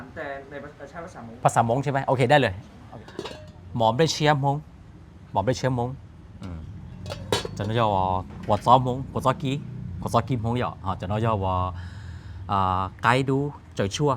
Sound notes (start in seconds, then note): 5.8 speaking Hmong